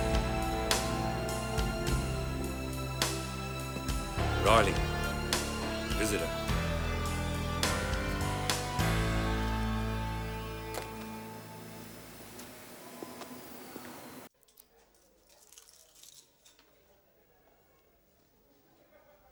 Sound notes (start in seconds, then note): 12.2 footsteps tapping